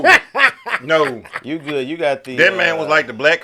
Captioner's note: laughter